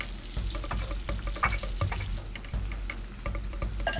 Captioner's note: food sizzling